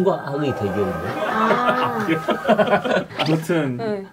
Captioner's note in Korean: 웃음